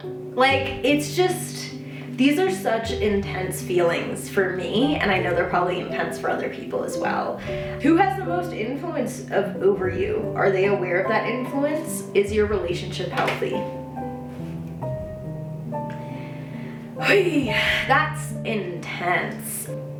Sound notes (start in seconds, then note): 15.9 sharp exhale